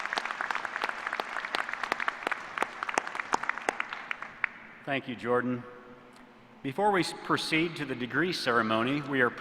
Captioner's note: applause